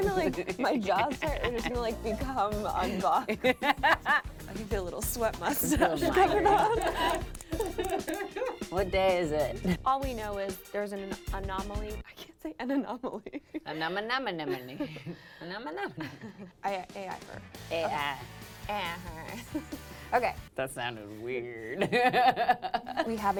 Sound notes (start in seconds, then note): 11.8 laughter